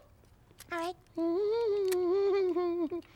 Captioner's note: humming